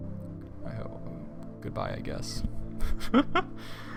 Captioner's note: fading laughter